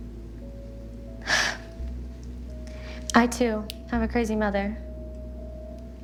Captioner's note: gentle music continues; sighs